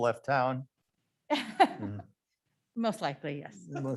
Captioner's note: group laughs